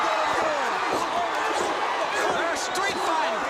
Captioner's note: crowd cheering